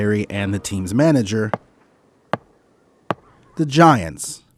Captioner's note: tapping